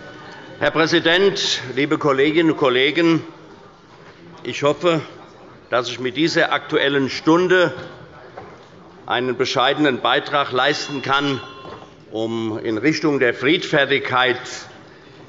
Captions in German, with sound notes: Herr Präsident, liebe Kolleginnen und Kollegen! Ich hoffe, dass ich mit dieser Aktuellen Stunde einen bescheidenen Beitrag leisten kann, (Anhaltende Unruhe – Glockenzeichen des Präsidenten) um in Richtung der Friedfertigkeit